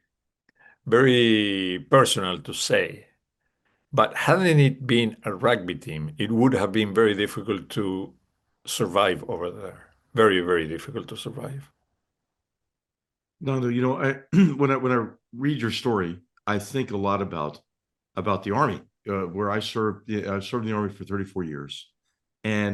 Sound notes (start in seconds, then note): 14.2 cough